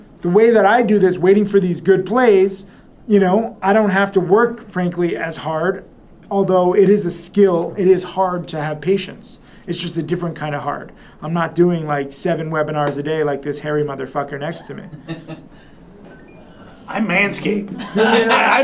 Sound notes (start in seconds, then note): 15.5 laughter